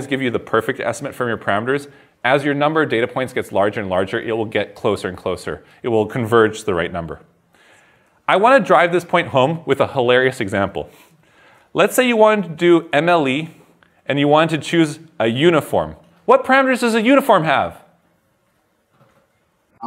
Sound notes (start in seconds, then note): none